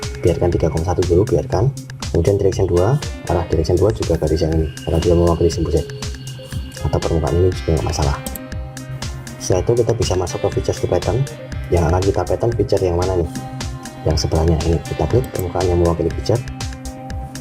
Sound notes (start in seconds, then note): 8.2 click